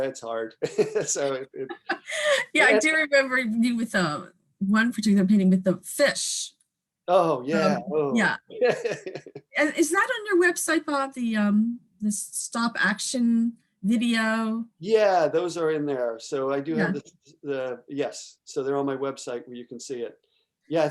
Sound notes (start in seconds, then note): 8.6 laughing